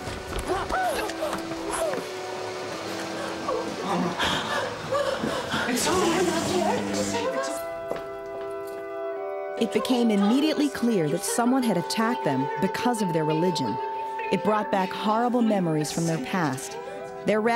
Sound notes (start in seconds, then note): 0.6 fearful whispers